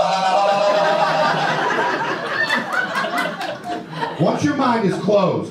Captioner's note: audience laughter